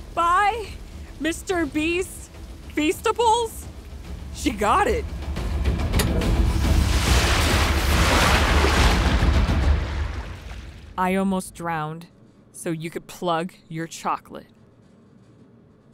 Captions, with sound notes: - Buy Mr. Beast Feastibles? - She got it. (water sloshing) (dramatic music) - I almost drowned so you could plug your chocolate.